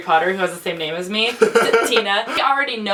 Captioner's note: laughs